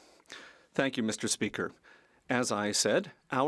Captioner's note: speaking French